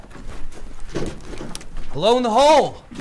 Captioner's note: Pete shuffling